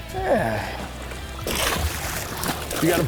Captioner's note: water splashing